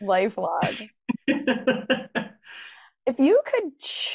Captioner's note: chuckling